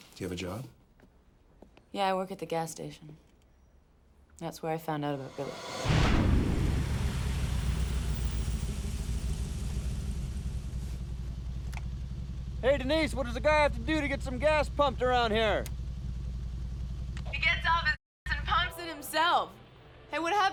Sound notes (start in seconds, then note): none